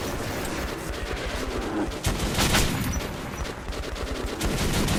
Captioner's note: animal growling